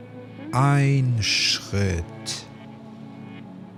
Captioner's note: german